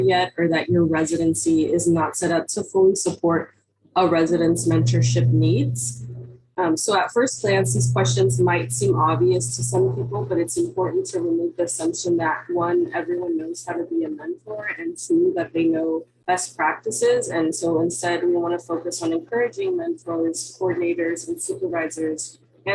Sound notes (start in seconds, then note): 12.5 audio connection unstable